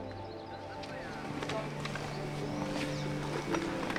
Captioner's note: birds chirp